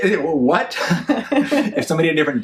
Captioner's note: laughs